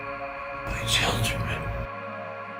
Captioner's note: voiceover